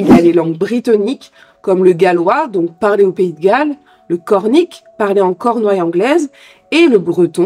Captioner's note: spoken in English Cornwall